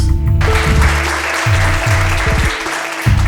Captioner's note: applause